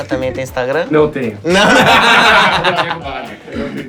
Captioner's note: risos